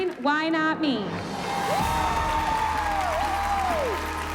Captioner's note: cheering and applause